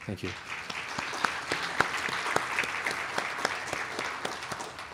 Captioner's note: applause